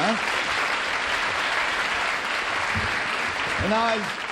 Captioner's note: applause